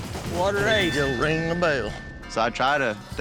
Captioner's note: rings bell